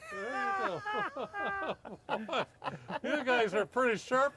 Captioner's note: laughing